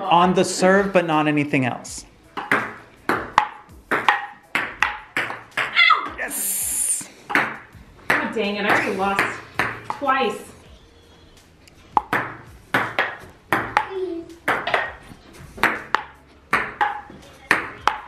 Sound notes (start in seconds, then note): 2.3 ball clacks; 11.7 ball clacks